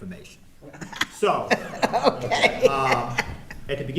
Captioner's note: laughing